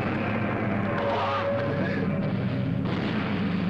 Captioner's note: yelling